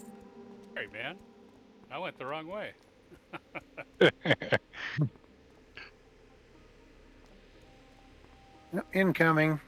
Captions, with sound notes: All right, man. I went the wrong way. [LAUGHS] Incoming.